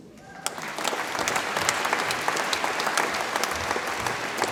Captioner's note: audience applauds